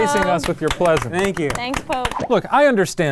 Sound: applauding

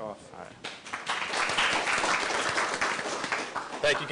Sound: applause

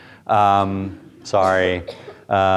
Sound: students chuckle

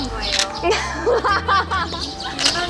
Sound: everyone laughing at perfect acting

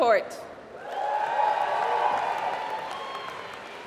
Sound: applause

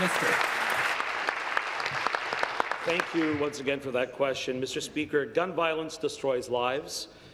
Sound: applause

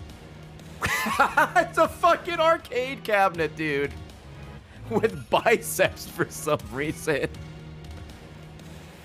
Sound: laughs

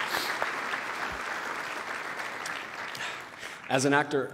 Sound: applause

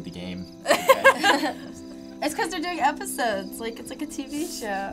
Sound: laughs

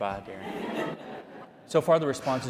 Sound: people laughing

